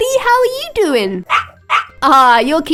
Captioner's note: barking